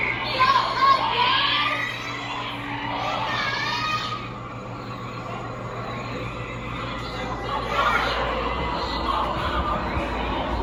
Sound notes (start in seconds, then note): 2.5 kids yelling